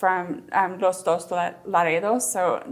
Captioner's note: speaks in Spanish